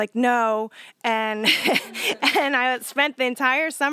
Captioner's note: laughter